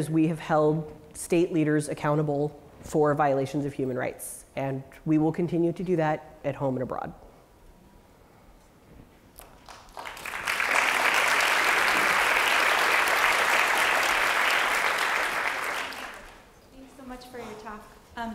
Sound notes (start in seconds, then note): 7.1 applause